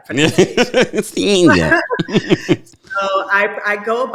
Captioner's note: both laughing